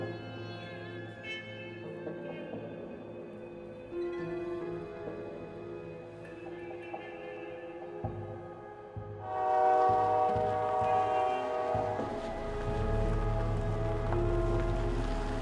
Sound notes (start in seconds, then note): 8.3 train horn wailing; 12.7 pensive music